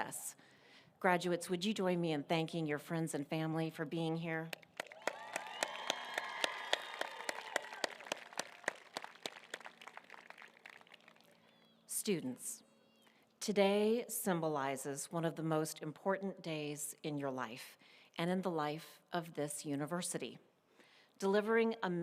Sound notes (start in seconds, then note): 11.1 applause